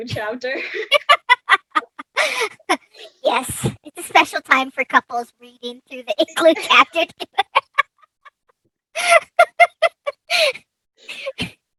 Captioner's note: laughs